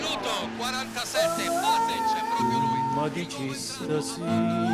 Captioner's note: Applauso